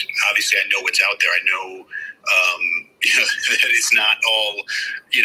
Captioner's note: laughs